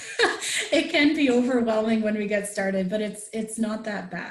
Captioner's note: laughs